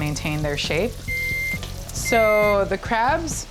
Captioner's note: device beeping